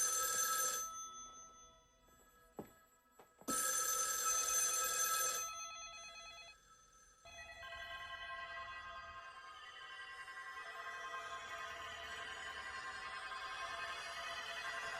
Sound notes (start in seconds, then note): 0.8 clip from film with sound of phones ringing